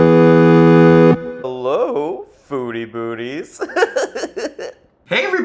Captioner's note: upbeat 8-bit music; laughs